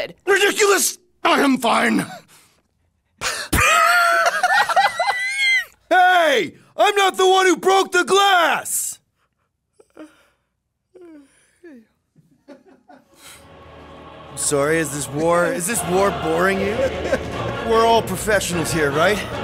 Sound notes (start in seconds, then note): 3.1 laughs; 10.9 yawns; 12.3 laughing in the background